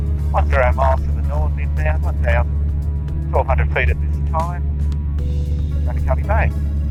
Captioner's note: conversation with air traffic control overrun with static